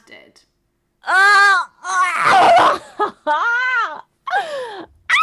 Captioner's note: screams